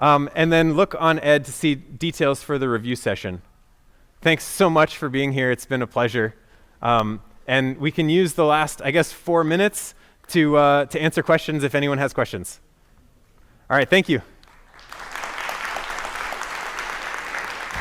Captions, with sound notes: And then look on Ed to see details for the review session. Thanks so much for being here. It's been a pleasure. And we can use the last, I guess, four minutes to answer questions if anyone has questions. All right, thank you. [APPLAUSE]